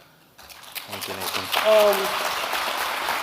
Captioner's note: audience clapping